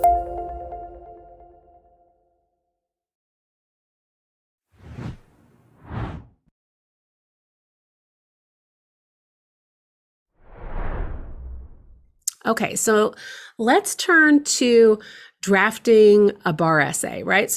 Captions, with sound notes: (whooshing noises) - Okay, so let's turn to drafting a bar essay, right?